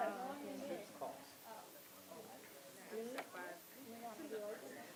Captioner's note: audience chattering softly